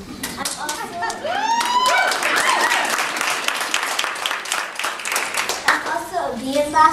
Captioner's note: cheers and applause